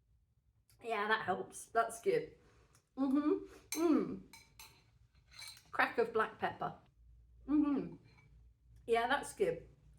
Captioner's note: happy mouth noises